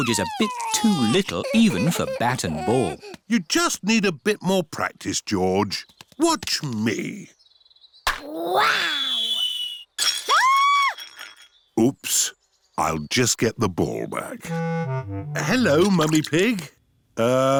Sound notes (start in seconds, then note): 10.2 clattering and shrieking